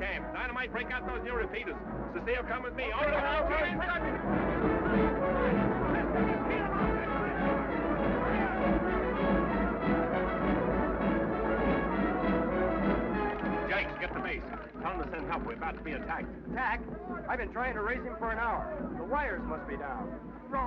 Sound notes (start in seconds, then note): 3.0 men shout; 5.2 exciting music